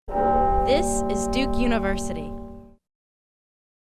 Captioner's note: bell ringing